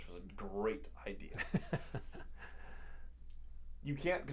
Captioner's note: laughs